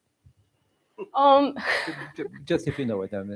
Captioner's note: laughter